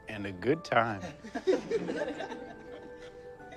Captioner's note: laughter